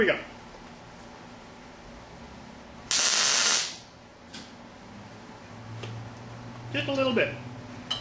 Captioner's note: welding